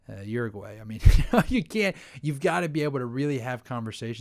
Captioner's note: laughs